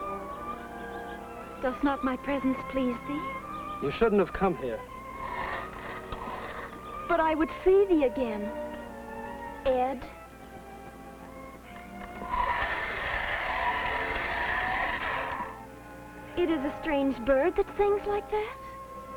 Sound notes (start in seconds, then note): 11.6 radio transmitter whirring